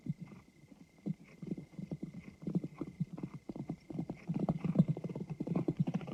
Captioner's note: hooves striking sand